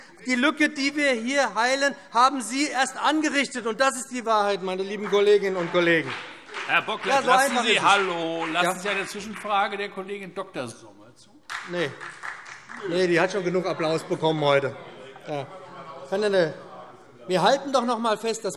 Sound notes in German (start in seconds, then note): 11.4 Vereinzelter Beifall SPD